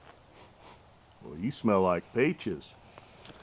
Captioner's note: sniffs